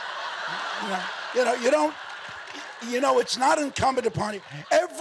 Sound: audience laughing

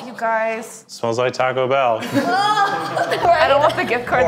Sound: cast laughs

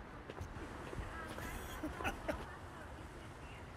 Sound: laughing

